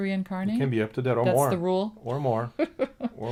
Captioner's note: laughs